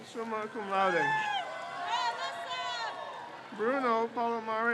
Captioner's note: crowd cheers